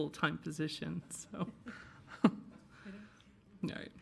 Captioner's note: laughing